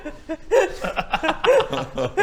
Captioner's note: laughs; cries